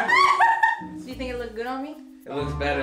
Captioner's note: laughing